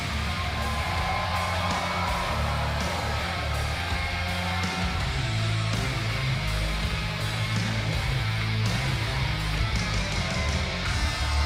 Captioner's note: cheers and applause